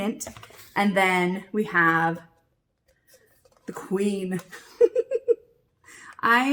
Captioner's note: laughs